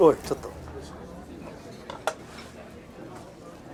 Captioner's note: speaks japanese